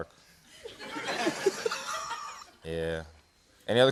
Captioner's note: laughter